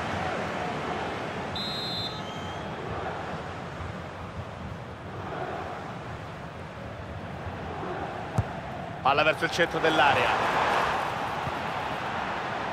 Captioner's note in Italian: Applauso